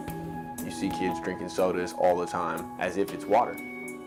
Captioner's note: voiceover